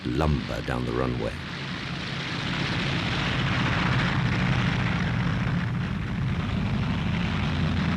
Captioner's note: plane engines roar